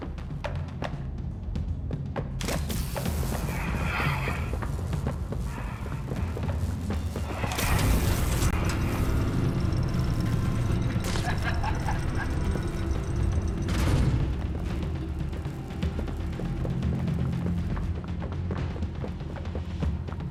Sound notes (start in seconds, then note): 0.0 footsteps; 8.5 laughs; 12.6 footsteps